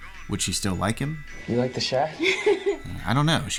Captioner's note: laughs